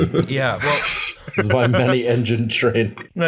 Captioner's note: laughter